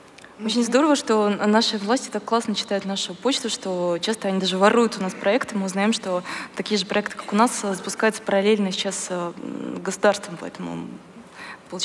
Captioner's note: foreign Language